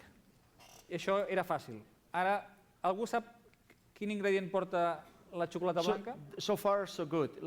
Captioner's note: non-english speech